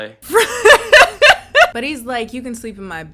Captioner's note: laughs